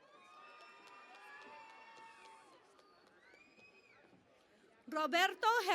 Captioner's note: cheering and Applause